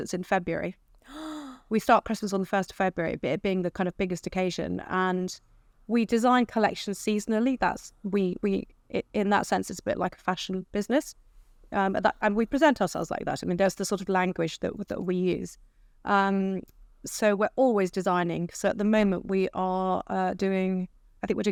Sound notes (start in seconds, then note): 1.0 gasps